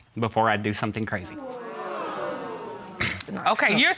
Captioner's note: audience gasps